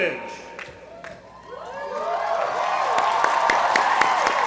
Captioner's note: applause